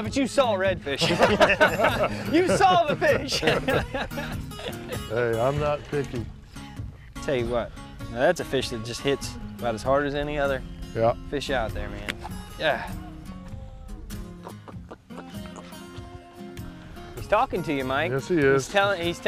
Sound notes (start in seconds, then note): 3.8 laughter; 14.2 fish grunting